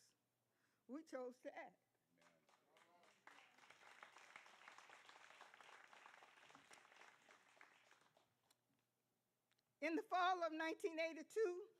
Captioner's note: applause